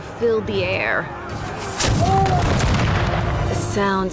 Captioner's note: cannon blasts, gunfire